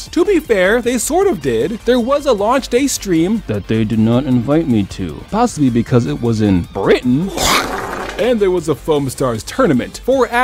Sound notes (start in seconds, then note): 7.2 vomit